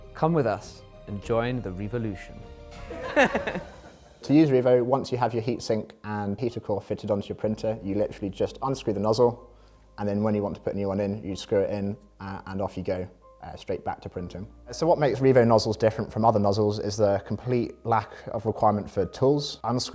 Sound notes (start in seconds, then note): 2.9 laughs